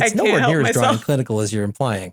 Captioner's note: laugh